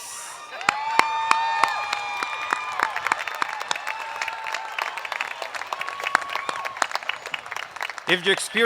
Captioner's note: applause